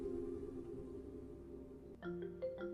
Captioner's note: phone ringing